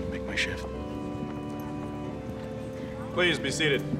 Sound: indistinct crowd chatter

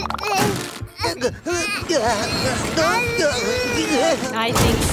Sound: babbling; groaning, babbling

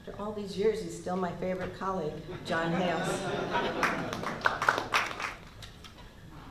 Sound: laughter and applause

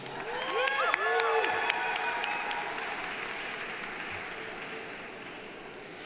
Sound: audience applauding; audience cheering

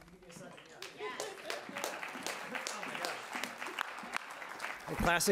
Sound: audience applauding

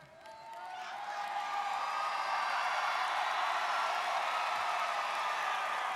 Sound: students cheering and applauding

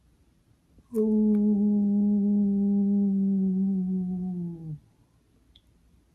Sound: howls

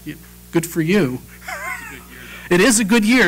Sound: laugh

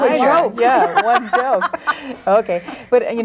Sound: group laughs

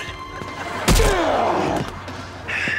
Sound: groaning

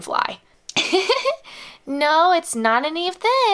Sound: giggles

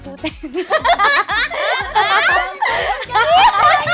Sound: group A laughing

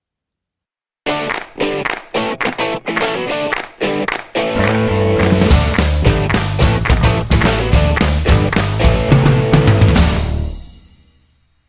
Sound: claps

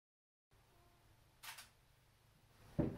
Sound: shutter Click

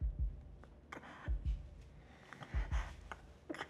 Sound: Zara gasping

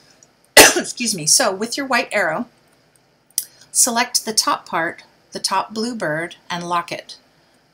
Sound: coughs

